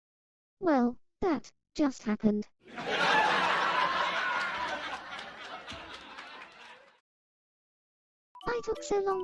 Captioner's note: laugh Track